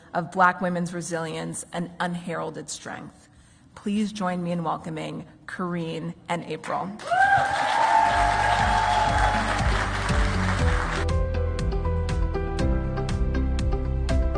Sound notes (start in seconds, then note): 7.0 audience cheers; 8.0 upbeat music